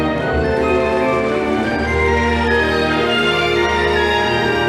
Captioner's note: audience applauding